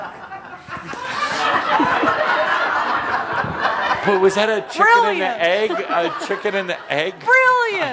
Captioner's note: laughter